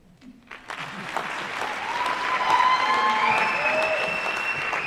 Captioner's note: applause